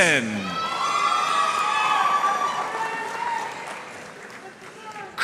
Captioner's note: audience cheering and applauding